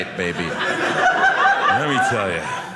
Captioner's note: audience laughing